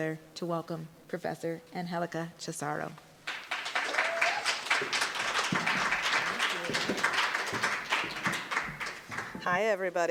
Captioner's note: applause